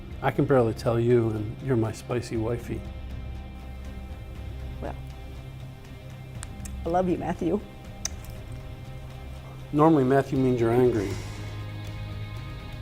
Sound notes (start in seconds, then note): 8.0 soft kiss